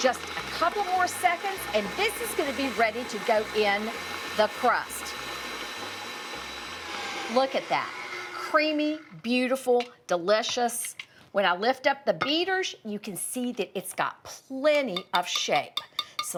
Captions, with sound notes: Just a couple of more seconds, and this is going to be ready to go in the crust. [mixer whizzes] Look at that. Creamy, beautiful, delicious. When I lift up the beaters, you can see that it's got plenty of shape,